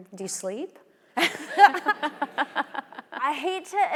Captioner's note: both laughing; audience laughing